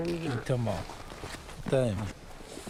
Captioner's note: speaking Inuit